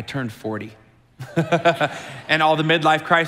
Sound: chuckles

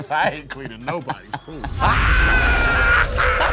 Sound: exclaims

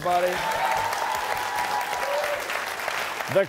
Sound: applause

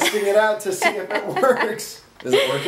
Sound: laughs

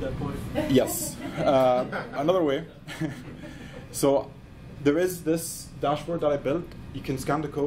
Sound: laughs

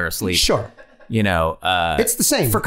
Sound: laughing

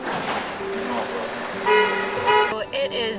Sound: horn honking

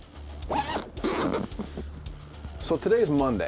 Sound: zipping

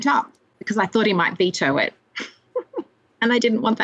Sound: laughs

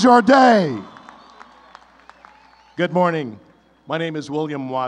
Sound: applause

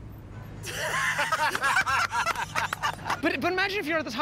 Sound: laughter

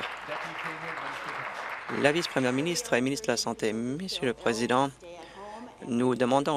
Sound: applause

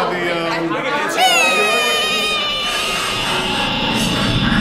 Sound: Zach imitates nails screeching; dramatic music

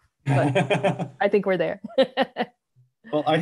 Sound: chuckles

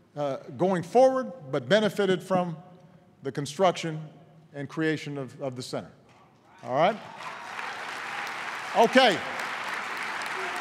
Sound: applause

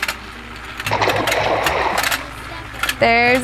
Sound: water splashes

